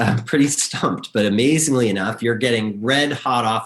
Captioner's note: chuckles